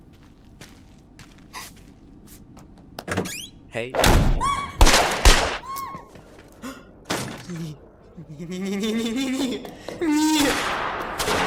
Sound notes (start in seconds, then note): 1.4 gasps; 4.8 gunshots; 5.6 screams; 7.4 gasps; 10.4 gunshots